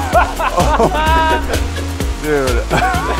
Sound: laughter

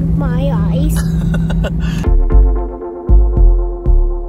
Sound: laughs; chilled out music

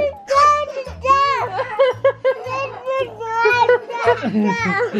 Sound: laughing

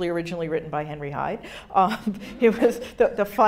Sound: audience laughing

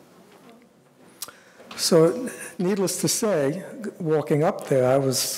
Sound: none

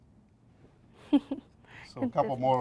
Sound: laughs

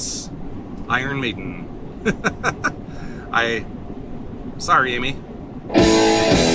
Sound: laughter

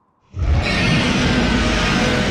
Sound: roars

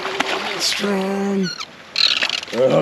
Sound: fish splashing

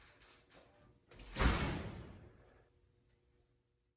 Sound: door slams

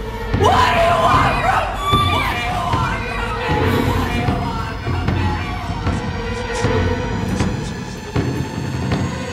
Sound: echoing

